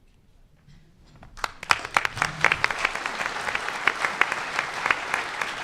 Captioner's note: audience applauding